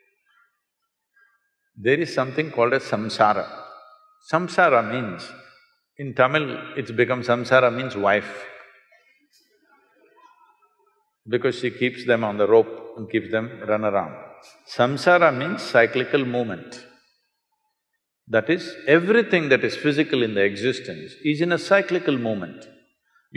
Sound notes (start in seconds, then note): 10.0 laughs